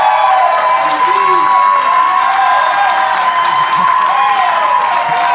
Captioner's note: cheering, applause